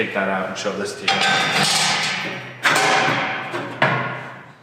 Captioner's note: metal clanging